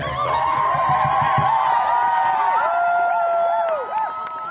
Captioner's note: crowd applauding